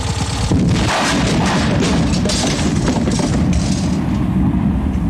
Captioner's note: kabooooom